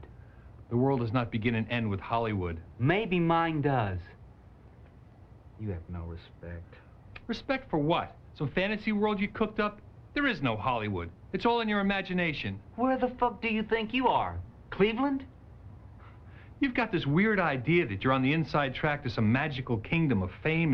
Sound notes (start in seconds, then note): 15.1 chuckles